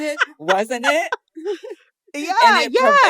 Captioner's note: laughter